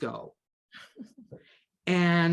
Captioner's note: chuckles